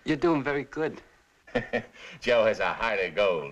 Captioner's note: chuckling